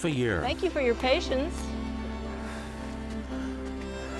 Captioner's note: heavy breathing